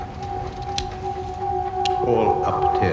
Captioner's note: ominous music; lighter flicking